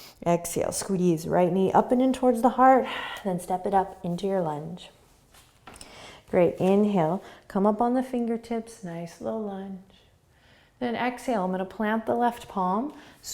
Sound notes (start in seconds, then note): 0.0 inhaling; 2.8 exhaling